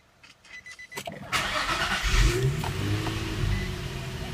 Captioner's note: car starting up